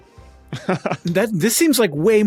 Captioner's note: chuckles